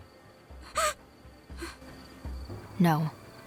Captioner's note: gasp of realization